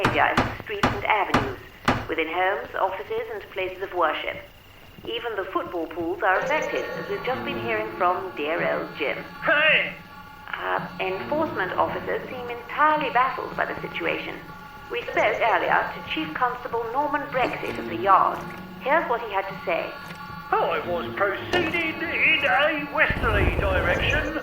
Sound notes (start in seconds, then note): 10.6 radio Announcer